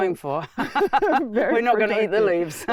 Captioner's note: laugh